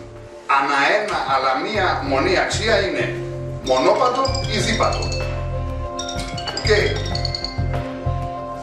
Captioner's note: cellphone rings